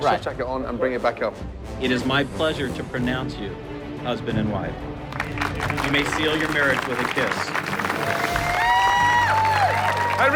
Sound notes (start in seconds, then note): 5.0 applause; 7.8 cheers and applause